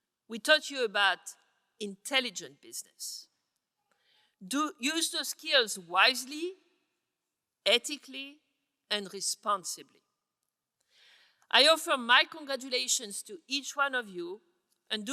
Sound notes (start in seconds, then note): none